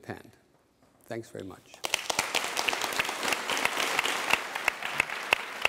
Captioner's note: applause